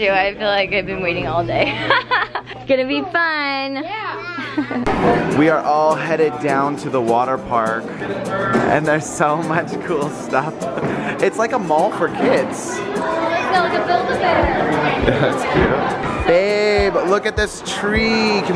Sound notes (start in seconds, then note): 1.6 laughing; 15.0 giggle